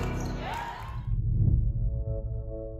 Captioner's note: clapping and applause